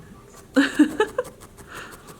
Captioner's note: laughing